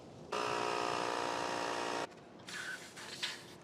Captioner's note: air pump humming